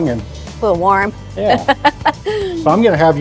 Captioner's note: laughing